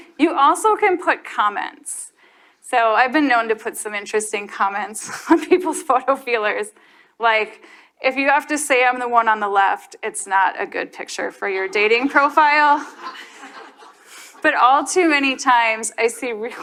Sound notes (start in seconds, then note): 5.0 chuckles; 12.0 audience laughs